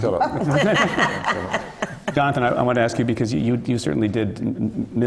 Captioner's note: laughs